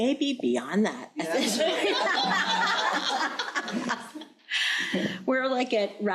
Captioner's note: crowd laughing